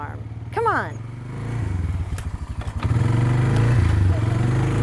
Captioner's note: motor rumbles